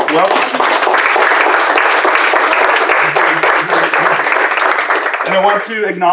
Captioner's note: applause